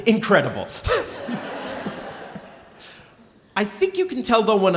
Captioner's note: laughing